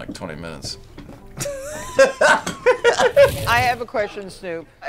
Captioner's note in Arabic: كلاهما يضحك